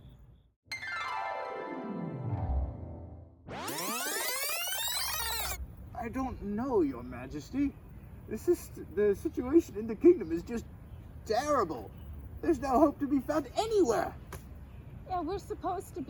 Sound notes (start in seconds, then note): 0.7 flashback noises; 3.4 tape rewinding